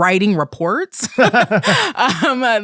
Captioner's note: both laughing